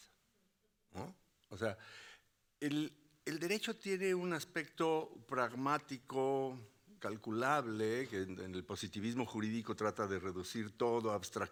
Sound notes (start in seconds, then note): 6.5 speaking Spanish continues